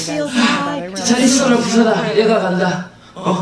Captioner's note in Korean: 멀리서 경적을 울리며